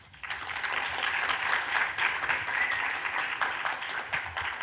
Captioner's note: audience applauding